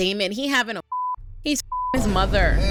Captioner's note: beep